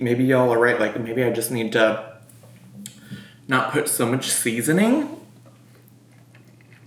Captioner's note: chews